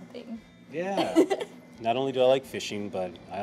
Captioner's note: Keely chuckles